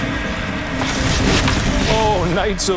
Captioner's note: crashing